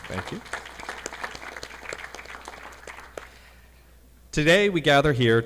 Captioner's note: audience clapping